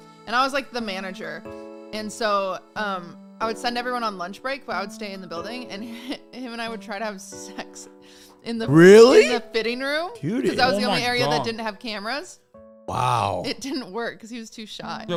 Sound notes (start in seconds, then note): 8.7 laughs